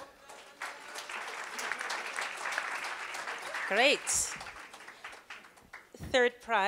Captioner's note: applause